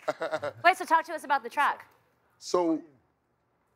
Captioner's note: laughing